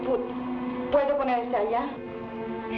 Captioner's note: woman speaking in Tagalog